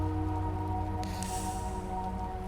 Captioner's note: torch clicks